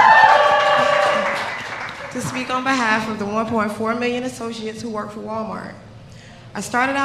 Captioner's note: cheers and applause